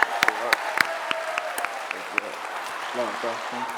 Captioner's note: clapping